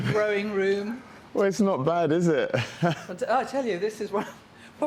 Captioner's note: chuckling